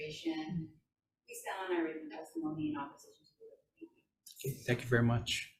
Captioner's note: speaking away from mic